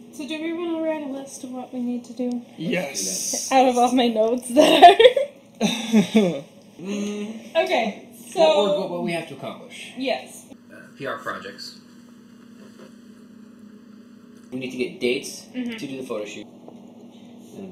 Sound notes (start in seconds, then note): 5.6 laughs